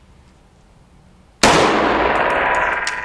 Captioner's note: pew